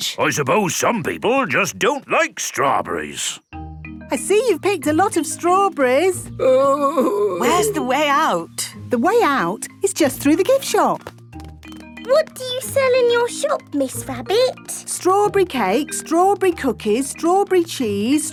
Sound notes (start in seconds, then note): 6.4 groaning